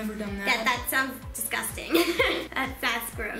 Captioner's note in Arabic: يضحك